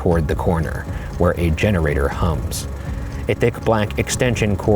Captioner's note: generator rumbling